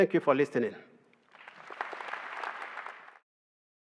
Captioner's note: applause